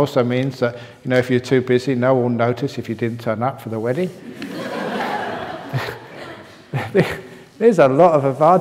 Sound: laughter

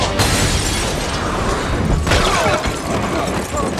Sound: window shatters

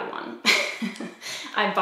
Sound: laughs

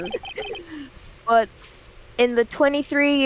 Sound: quiet laughing

